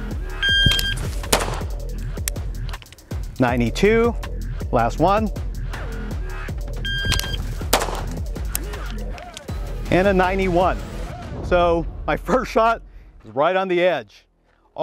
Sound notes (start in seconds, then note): 0.0 gentle upbeat music; 0.4 signal chiming; 1.2 gun clicking; 1.2 gun firing; 6.8 signal chiming; 7.0 gun clicking; 7.6 gun firing